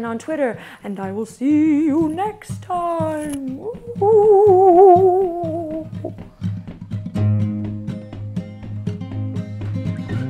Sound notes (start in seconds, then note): 0.2 in spooky voice; 3.7 makes ghost noises; 7.0 hawaiian music